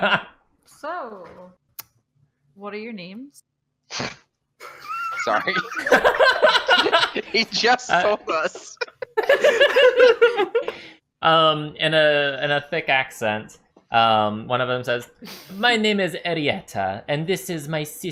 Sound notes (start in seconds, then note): 4.6 laughter, they just told us